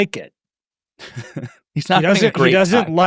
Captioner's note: chuckles